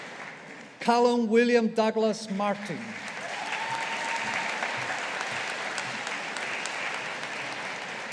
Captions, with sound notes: Callum William Douglas Martin. (AUDIENCE APPLAUDING)